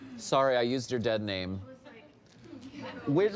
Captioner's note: people laughing